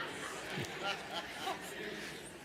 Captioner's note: laughter